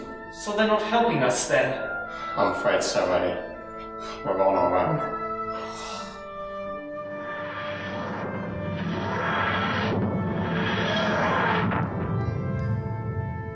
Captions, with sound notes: -So, they're not helping us then? -I'm afraid so Eddie. We're on our own. (EDDIE SIGHS) (WHOOSHING)